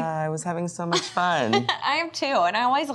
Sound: laughs

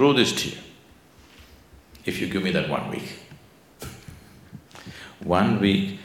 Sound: laughs

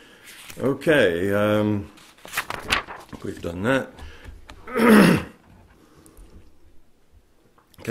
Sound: turns page

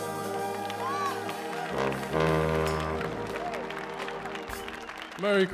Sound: audience applauds

